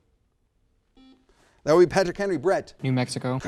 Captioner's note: buzzer sounds